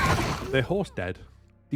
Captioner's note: explosion